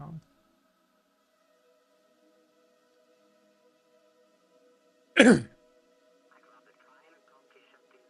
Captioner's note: clears throat